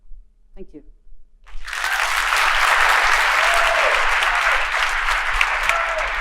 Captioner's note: applause